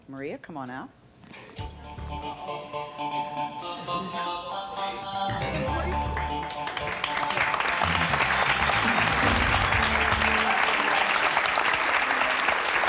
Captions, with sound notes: Maria, come on out. (low music) (audience cheers)